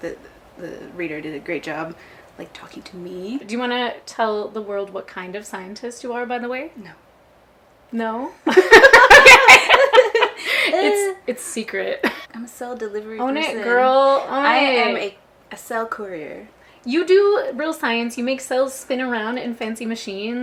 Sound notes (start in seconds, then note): 8.5 both laugh